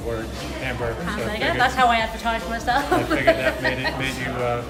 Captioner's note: laughter